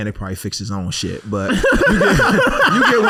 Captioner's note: laughing